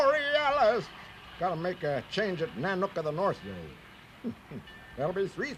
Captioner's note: chuckles